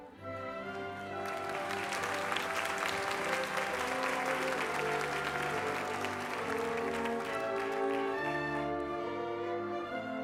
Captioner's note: applause